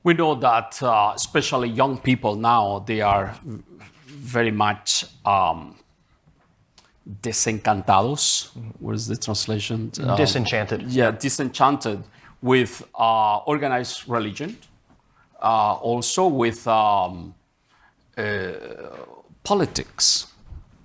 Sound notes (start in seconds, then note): 7.0 speaking in Spanish